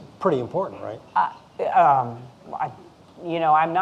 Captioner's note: laughing